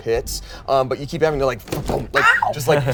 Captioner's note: makes thumping noise